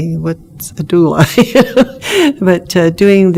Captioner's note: laughs